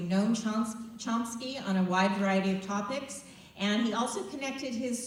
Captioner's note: none